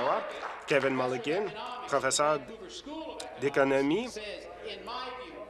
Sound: applause

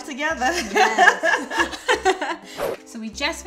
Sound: laughing

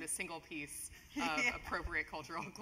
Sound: laugh

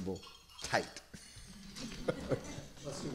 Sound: laughter

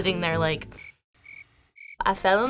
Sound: crickets chirp

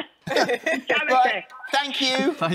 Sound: laughter

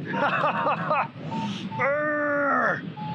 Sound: laughs; grunts

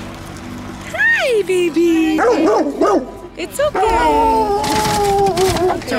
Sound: barks

